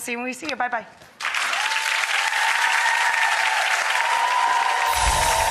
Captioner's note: audience claps and cheers